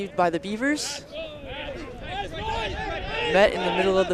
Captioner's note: shouting